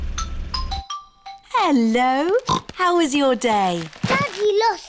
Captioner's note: oinks